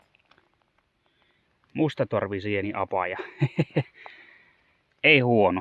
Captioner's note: he-he